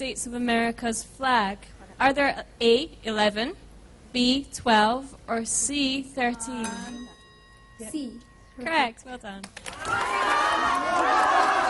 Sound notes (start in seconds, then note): 6.4 bell; 9.4 applause